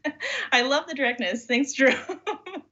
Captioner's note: laughs